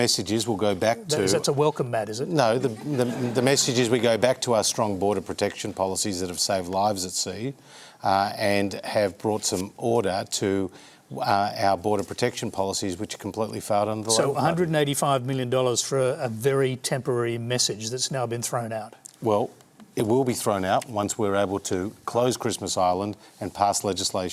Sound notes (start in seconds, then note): 2.6 laughter